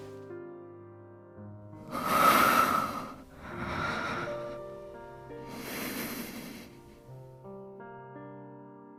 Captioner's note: huffs